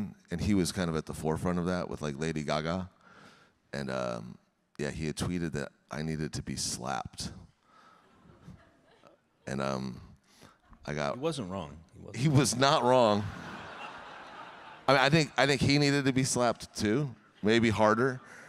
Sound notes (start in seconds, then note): 12.2 audience laughing